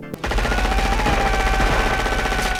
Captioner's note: John McClane screaming, gunfire